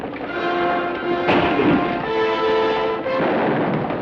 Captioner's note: gun fires